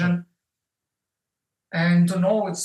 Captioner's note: Russian